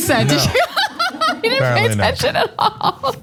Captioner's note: laugh